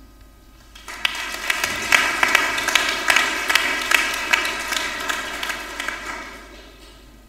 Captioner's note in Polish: oklaski